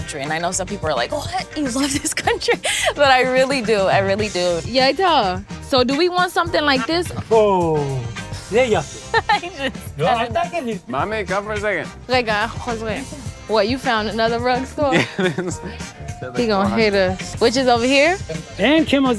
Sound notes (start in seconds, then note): 8.5 shopkeeper speaks in foreign language; 9.6 speaks in foreign language; 12.5 speaks in foreign language; 14.6 laughs; 16.7 speaks in foreign language; 18.9 shopkeeper speaking in foreign language